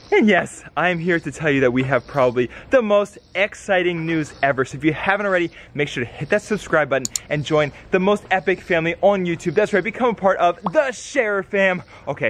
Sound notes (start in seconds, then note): 7.0 mouse clicking